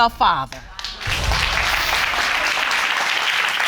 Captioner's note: audience applauding